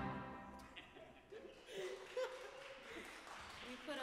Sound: band members laughing; audience clapping

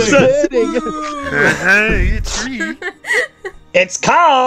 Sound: laughter

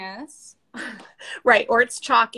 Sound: laughs

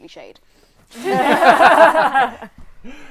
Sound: laughter

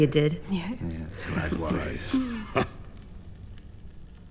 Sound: murmuring in agreement

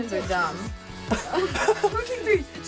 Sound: laughs

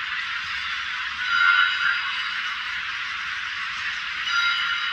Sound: chime 4; chime 5; chime 6

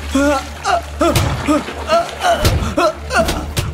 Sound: screaming

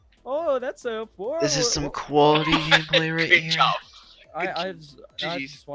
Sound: laughs

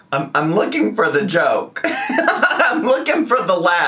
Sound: laughs

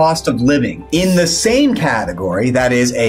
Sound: graphics swish

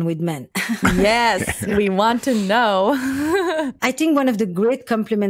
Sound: laughs

